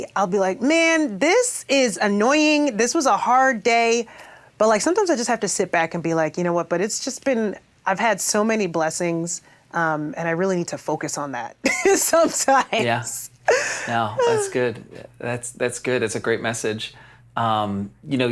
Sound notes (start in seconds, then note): 11.9 laughs